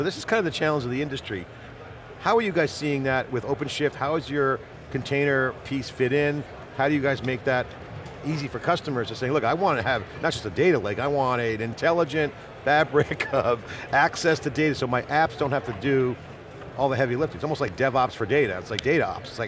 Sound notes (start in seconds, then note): 12.8 chuckling